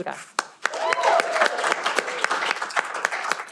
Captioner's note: cheering